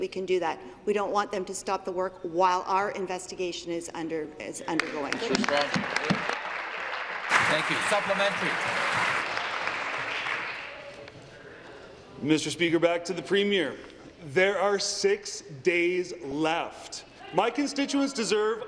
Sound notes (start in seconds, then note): 10.2 applause